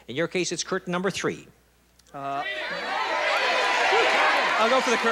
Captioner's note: audience shouting